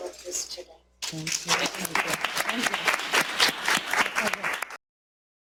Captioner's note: applause